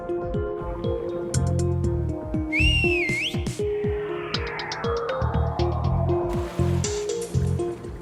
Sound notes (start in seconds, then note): 2.4 whistles